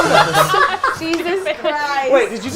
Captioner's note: group laughs